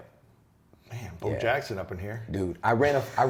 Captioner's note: laughs